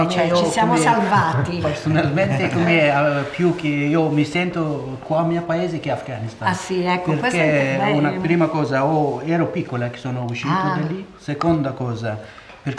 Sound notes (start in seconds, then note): 0.0 chatter